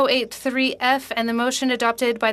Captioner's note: speaking French